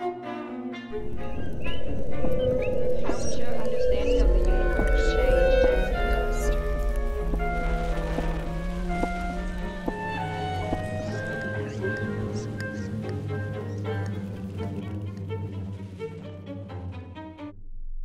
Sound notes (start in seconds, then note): 1.5 low frequency humming; 1.5 playful music; 5.6 slow music; 7.7 playful orchestral music; 14.3 playful orchestral music